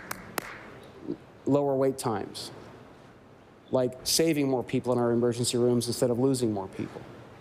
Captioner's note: applause